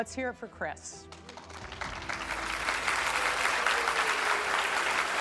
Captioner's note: audience applaud